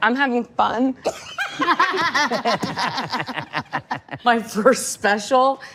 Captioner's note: all lauhging